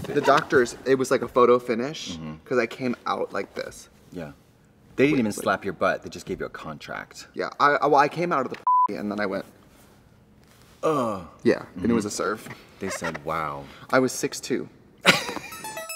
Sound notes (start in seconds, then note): 8.6 beep; 15.5 upbeat music